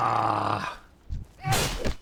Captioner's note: grunts